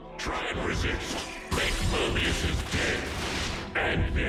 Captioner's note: game sound effects